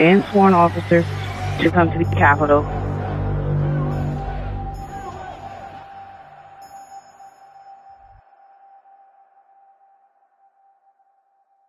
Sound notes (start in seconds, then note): 3.1 chanting